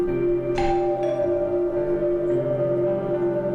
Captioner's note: doorbell ringing